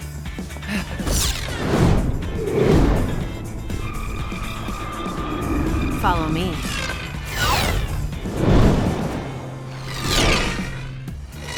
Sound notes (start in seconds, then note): 0.2 upbeat music; 7.2 both whooshing